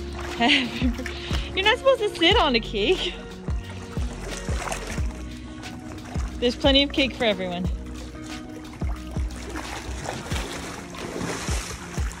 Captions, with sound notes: "Happy Bir- you're not supposed to sit on the cake!" (water splashing noises) There's plenty of cake for everyone. (water splashing noises) (background music)